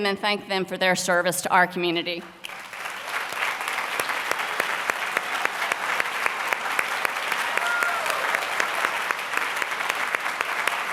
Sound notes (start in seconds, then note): 6.7 applause